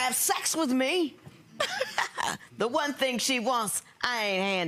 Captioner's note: laughs